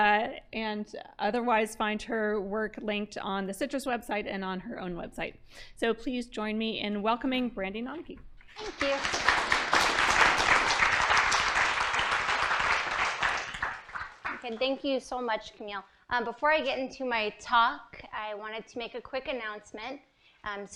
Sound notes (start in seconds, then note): 8.4 applause